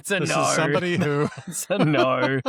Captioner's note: laughter